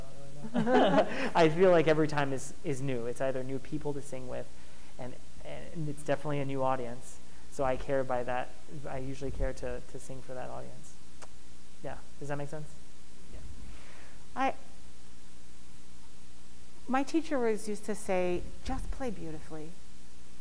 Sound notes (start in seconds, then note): 13.4 soft Voice